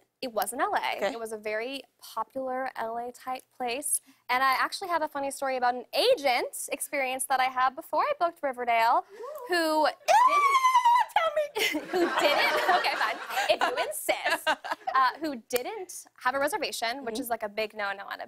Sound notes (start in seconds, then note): 11.5 laughter